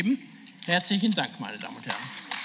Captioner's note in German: Beifall